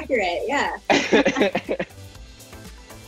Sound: laughing; upbeat music

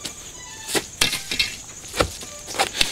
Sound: sword clatters

